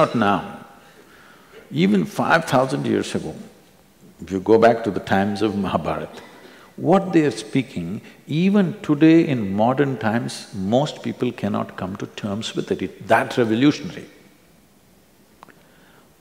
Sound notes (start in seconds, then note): none